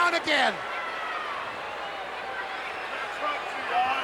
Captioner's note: crowd yelling